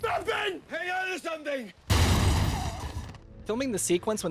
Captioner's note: collision sounds